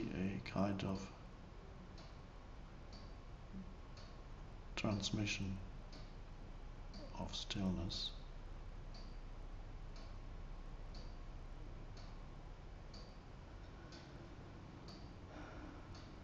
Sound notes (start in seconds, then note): 8.8 clock ticking